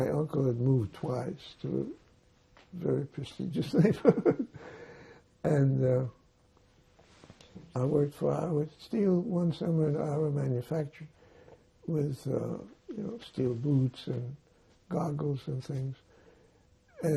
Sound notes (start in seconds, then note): 3.7 laughing